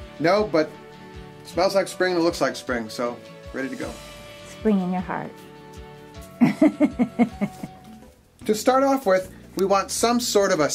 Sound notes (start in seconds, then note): 6.4 woman laughing